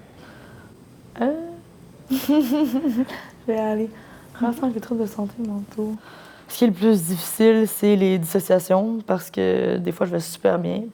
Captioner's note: laughs